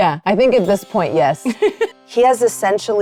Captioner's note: laughing